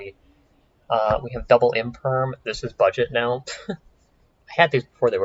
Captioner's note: chuckles